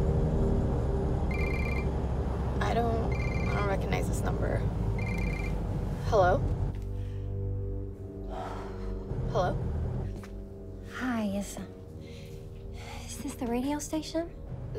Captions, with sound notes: (cell phone rings) I don’t... I don’t recognize this number... Hello? Hello? Hi... Is this the radio station?